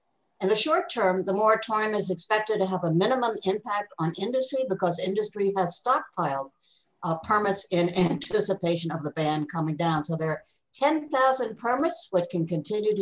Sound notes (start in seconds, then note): 7.8 laughs